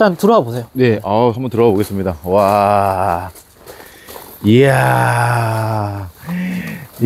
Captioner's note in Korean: 감탄